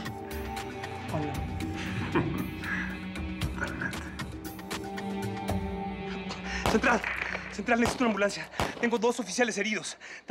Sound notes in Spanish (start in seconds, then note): 1.8 Risas; 8.8 Disparos